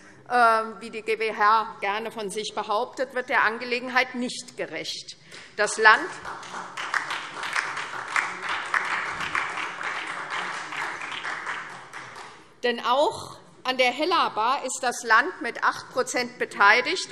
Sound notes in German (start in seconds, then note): 6.0 Beifall SPD und DIE LINKE